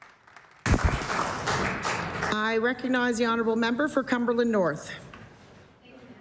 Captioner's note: applause